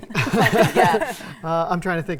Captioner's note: group laughing